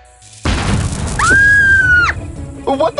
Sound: Riya screams

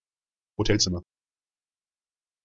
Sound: fast Pronunciation

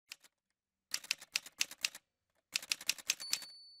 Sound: typewriter sounds

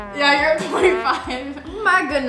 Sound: sad horn blows

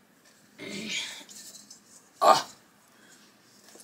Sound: grunting

